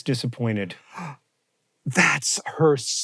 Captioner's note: HANK gasps